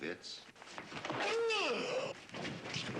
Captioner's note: groans loudly